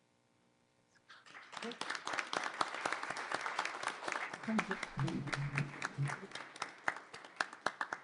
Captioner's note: applause